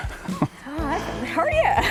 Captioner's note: laughter